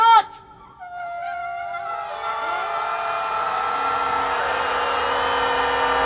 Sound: crowd screams with shofar

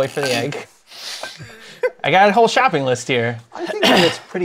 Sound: choking back laughter

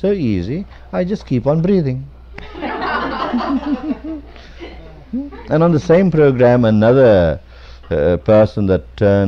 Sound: laughter

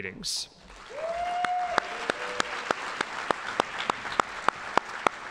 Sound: audience applauding

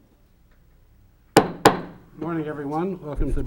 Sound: gavel hitting on sound block

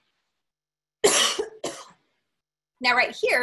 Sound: coughing

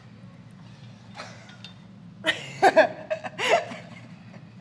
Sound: laugh

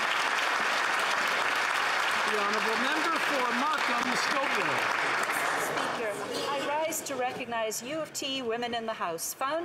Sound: some Applause

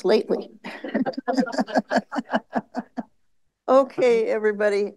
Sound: laughter

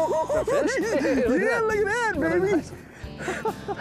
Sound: laughing

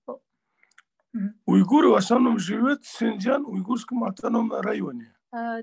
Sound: in Russian

